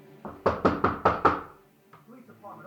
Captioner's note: door knocking